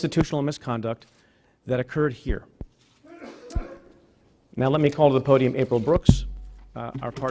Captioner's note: sneezing